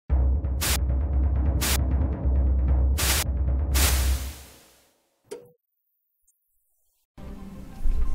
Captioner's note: intro Static